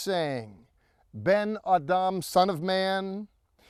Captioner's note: speaking in Hebrew